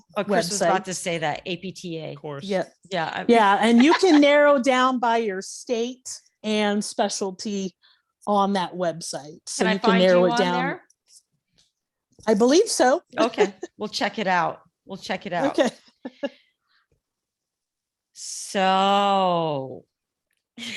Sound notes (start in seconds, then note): 16.0 chuckling